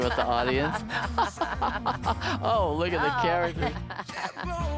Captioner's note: they laugh